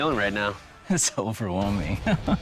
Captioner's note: laughs